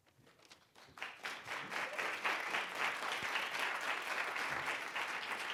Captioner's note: audience applauding